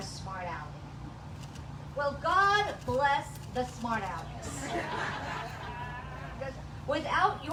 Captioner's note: laughs